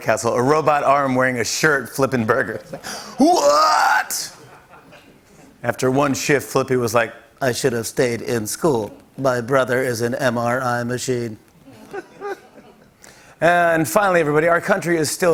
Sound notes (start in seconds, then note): 7.4 robot voice; 11.7 light laughter